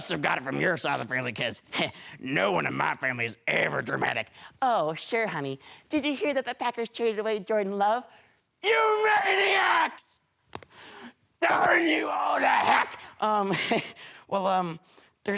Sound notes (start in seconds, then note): 10.6 heavy breathing